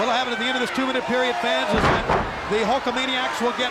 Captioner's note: body slamming